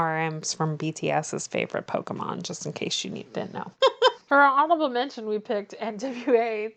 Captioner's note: laughs